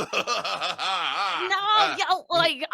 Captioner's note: laughing